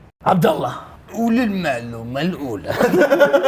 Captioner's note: sarcastically; both laugh